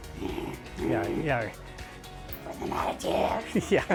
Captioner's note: growls